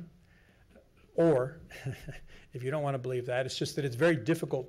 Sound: chuckles

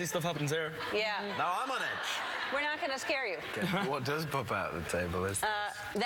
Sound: laughter

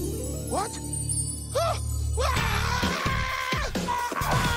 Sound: screaming

